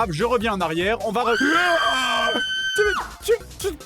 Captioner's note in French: cris aigus